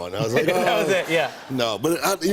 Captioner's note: laughter